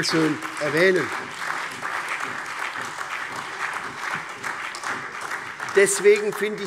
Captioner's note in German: Beifall SPD, CDU, BÜNDNIS 90/DIE GRÜNEN, Freie Demokraten und vereinzelt AfD